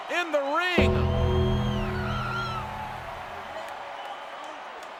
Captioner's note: audience cheers